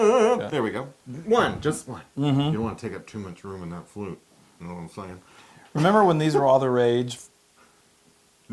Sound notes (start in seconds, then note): 5.8 laugh